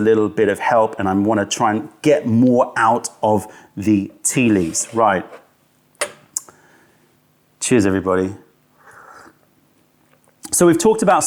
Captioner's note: sips tea